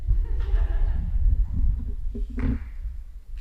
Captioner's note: laughing